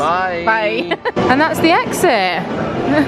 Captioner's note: laughs; laughs